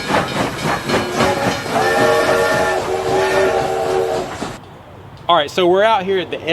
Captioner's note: train whistle blowing